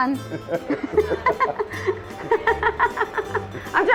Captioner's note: laughing